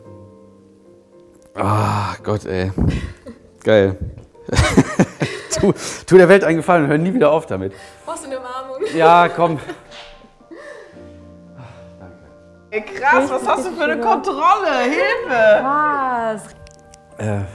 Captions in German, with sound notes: Ah, Gott, ey. Geil. (Er lacht.) Tu ... Tu der Welt einen Gefallen, wir hören nie wieder auf damit. Brauchst du eine Umarmung? - Ja, komm. Ey, krass, was hast du für eine Kontrolle? Hilfe! Krass.